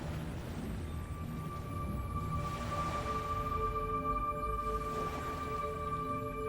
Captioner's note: somber music; waves splashing